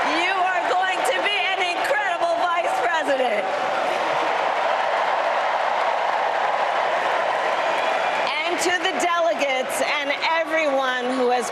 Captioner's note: applause